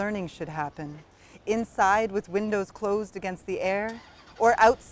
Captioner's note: car starts